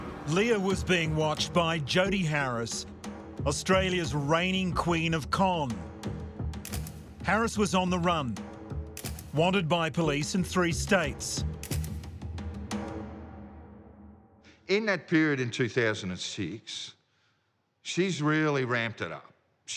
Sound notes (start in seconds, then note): 0.0 dramatic music intensifies; 6.6 camera shutter clicking; 9.0 camera shutter clicking; 11.6 camera shutter clicking